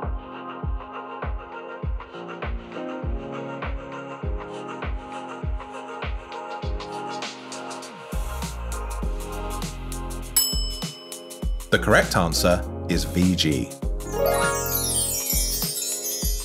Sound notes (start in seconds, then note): 0.2 upbeat music; 10.4 bell rings; 14.0 bright chimes